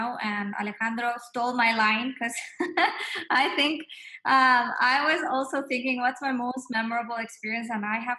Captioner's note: laugh